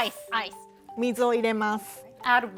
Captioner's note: speaking Japanese